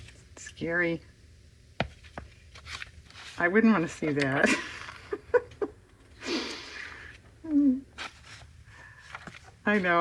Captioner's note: laughs